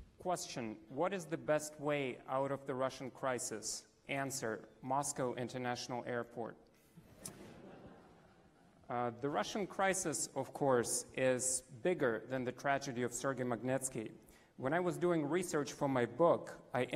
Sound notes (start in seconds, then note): 6.8 laughs